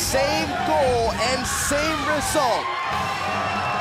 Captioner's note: crowd cheering